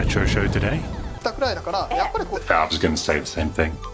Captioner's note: speaking foreign language